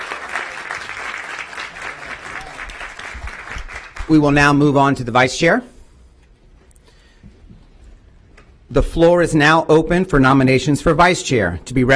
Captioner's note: applause